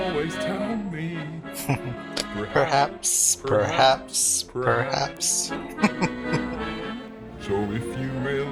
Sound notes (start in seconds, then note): 1.5 chuckling